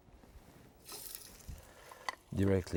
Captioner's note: pan sizzles